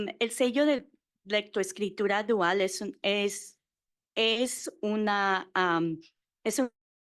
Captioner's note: Spanish